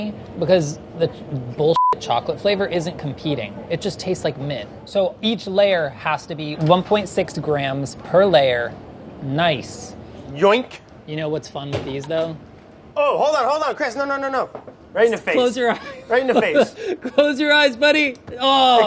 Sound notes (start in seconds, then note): 15.6 chuckles